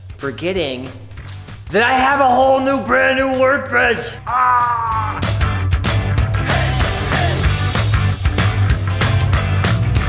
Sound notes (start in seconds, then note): 4.2 screams; 5.6 upbeat music